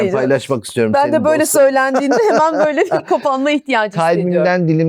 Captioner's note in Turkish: kahkaha